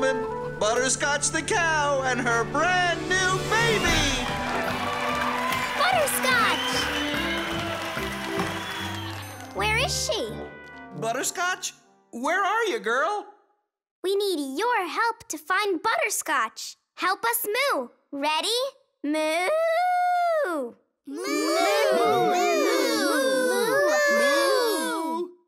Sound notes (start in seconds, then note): 3.6 cheering; 21.2 everyone mooing